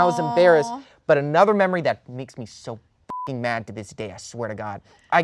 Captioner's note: beep